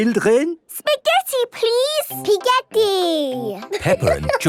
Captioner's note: laughing